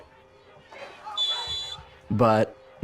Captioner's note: whistle blows